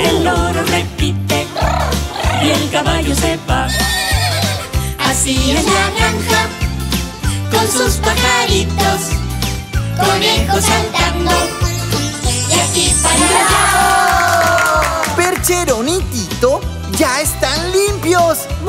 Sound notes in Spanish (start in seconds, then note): 3.6 Relincho; 13.8 Aplausos